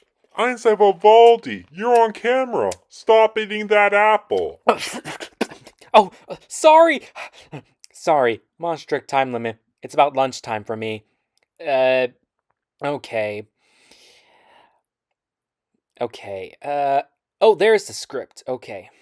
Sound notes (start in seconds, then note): 4.9 spits out apple